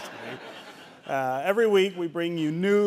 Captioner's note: audience laughing